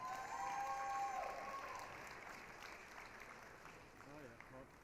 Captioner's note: applause, cheering